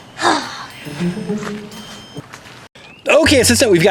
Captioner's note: sighs